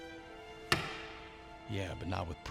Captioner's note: wedding ring clatters